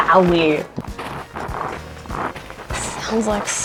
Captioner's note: snow crunches